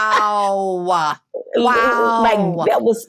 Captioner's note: laughs